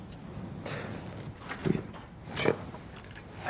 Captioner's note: door opens